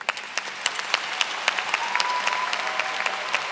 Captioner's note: applause